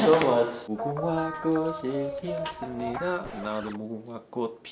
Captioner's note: speaking in Korean